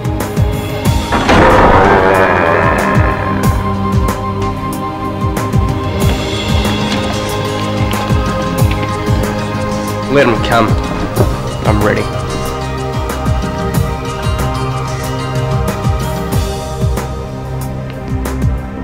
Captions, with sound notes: (door squeaking) Let 'em come. I'm ready. (gentle tribal music)